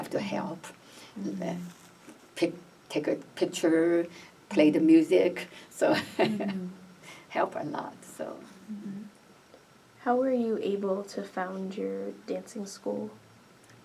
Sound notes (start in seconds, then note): 6.1 laughs